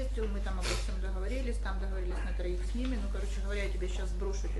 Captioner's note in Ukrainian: сопіння